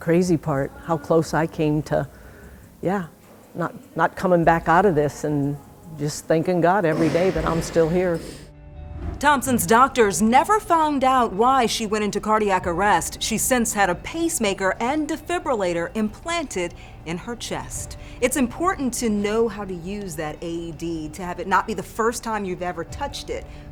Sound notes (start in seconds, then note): 7.0 equipment thuds distantly; 8.8 soft music; 8.9 graphics whooshing